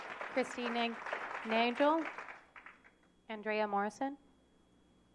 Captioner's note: applause